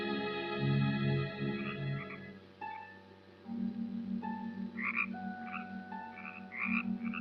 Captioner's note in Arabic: نعيق الضفادع